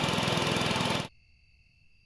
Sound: portal Generator Sound; Portal Generator Sound Off

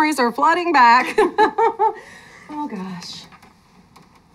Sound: both laugh

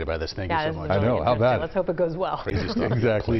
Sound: laughter

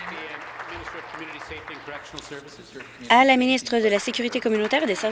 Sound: applause

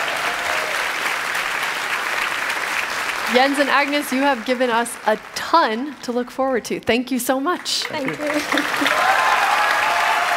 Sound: applause

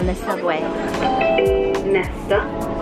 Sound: chiming

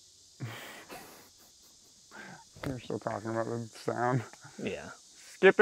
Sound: chuckles

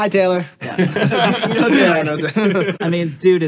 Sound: all laughing

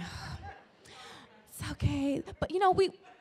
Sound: audience laughing

